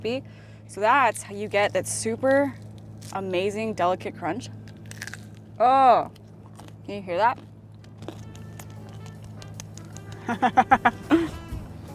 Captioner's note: crunch